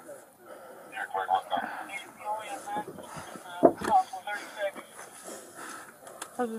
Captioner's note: radio chatter